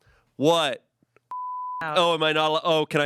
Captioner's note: beep